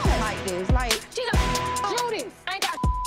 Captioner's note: beep